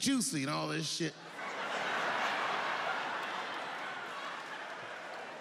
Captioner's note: audience laughing